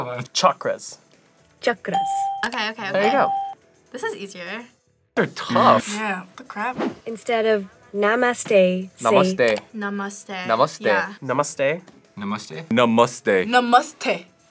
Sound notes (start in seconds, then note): 3.0 bell rings